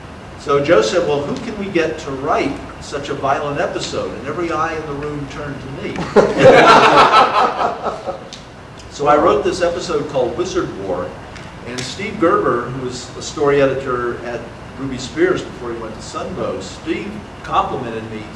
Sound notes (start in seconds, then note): 6.0 audience laughter